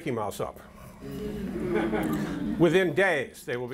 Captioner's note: audience laughter